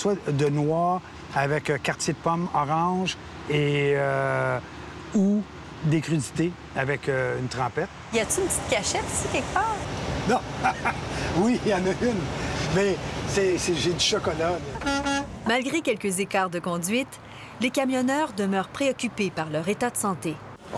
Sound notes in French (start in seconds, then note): 13.5 rire; 14.1 coups de klaxon